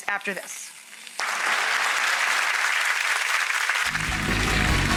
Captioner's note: audience applauds